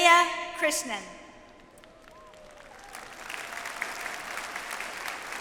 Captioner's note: audience applauds